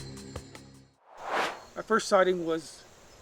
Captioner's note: air swooshes